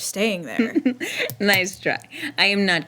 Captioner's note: giggling